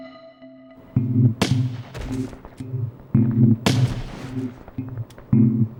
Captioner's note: mysterious music; gunfire blasting